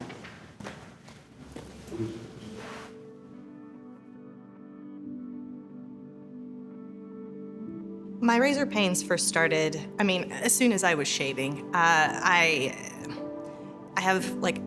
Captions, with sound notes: (footsteps) (soft music) My razor pains first started, I mean, as soon as I was shaving, I have like